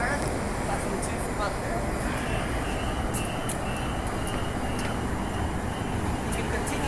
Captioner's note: train doors close